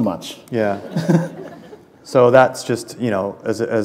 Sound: laughter

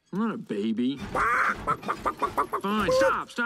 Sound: clucking

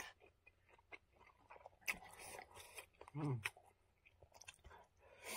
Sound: eating sound

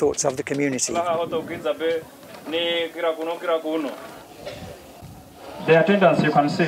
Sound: speech in Swahili

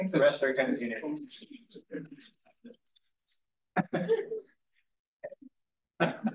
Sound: group chattering indistinctly

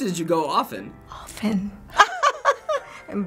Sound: laughing

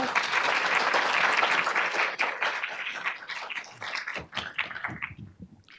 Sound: audience clapping

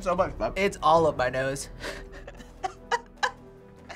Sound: laughs

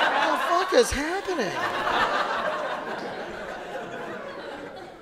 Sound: audience laughing

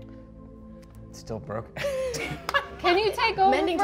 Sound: laughs

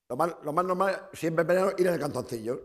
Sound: speaking spanish

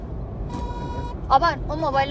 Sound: car horn honking

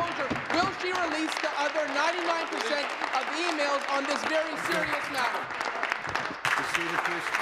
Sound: applause

